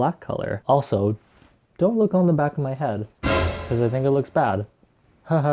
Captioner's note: dramatic sound effect